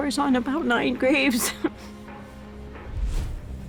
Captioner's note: chuckles